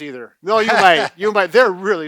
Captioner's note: laughs